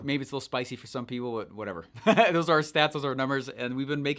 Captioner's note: laughs